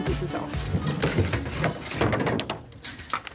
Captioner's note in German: Klappern, Poltern